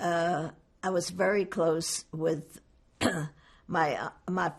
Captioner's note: clears throat